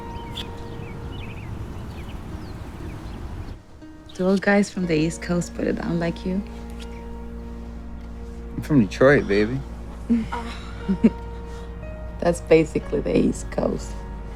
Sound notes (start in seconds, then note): 10.1 laughter